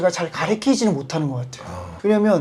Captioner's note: sigh